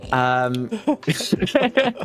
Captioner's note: laughter